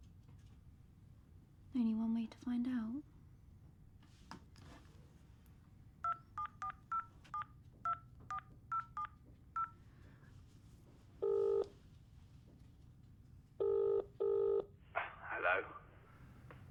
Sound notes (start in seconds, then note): 6.0 cell phone dialer beeping; 11.2 phone line ringing